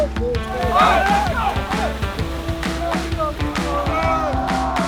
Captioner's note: upbeat music continues; water splashing; cadets yelling